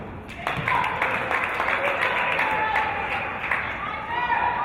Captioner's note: applause and cheers